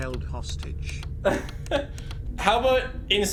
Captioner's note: laughs